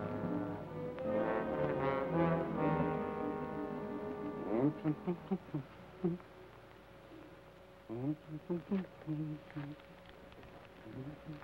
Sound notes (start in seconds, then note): 4.4 Joshua hums melodically